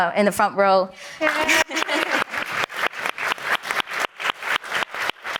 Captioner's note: audience applauding